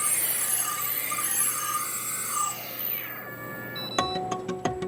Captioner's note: machinery whirring